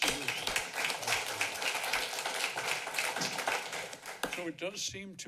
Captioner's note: applauding